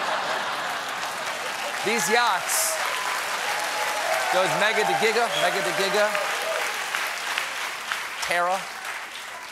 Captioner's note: laughter; cheers and applause